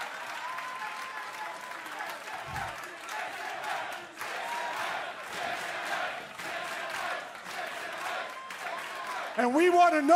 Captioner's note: crowd cheering